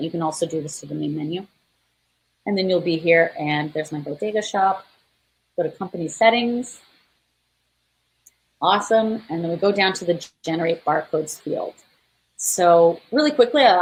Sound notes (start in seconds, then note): none